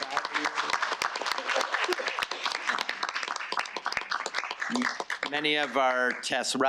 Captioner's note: audience applauding